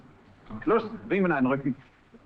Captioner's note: speaking in german